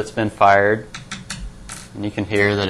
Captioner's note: tapping desk